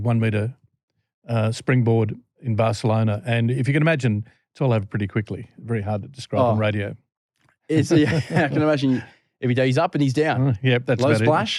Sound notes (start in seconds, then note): 7.7 laughter